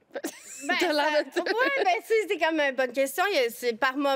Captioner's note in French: rires